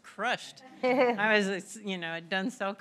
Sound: laughter

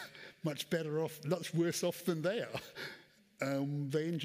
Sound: chuckles

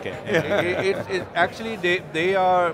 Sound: laughs

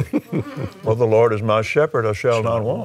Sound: chuckles

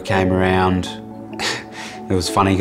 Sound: laughs

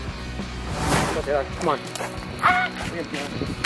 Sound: grass crunching

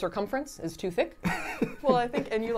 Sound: laughing

